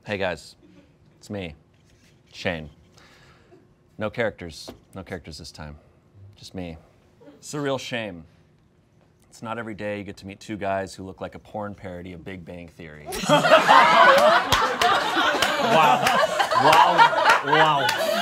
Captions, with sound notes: - Hey guys, it's me, Shayne. No characters. No characters this time. Just me. It's a real shame. It's not every day you get to meet two guys who look like a porn parody of "Big Bang Theory." (all laughing)